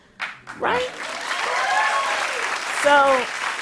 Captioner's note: cheers and applause